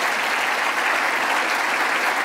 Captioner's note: applause